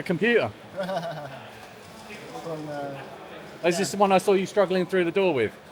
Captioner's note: laughing